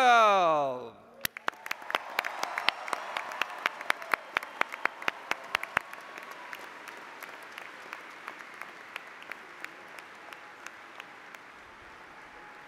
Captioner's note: applause